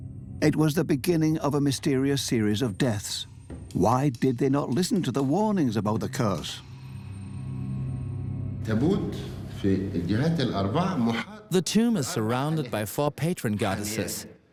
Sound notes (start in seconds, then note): 8.6 Arabic dubbed in English